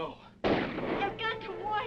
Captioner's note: guns firing